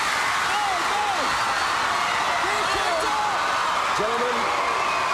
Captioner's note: crowd cheering